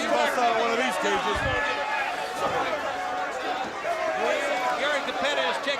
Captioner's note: crowd chatter